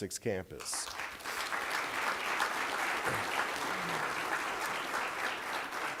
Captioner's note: applause